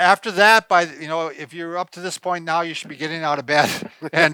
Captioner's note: chuckles